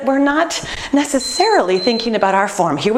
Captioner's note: beeping